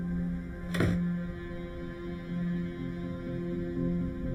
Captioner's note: door bangs